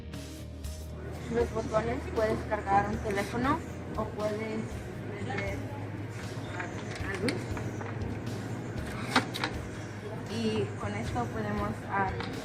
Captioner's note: spanish Spoken